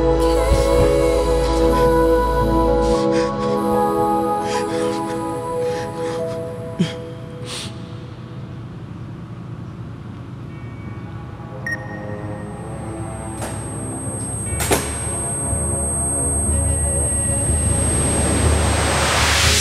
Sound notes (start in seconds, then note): 10.6 light dramatic music; 11.6 phone beeps; 12.4 door clicks; 12.4 high pitched ringing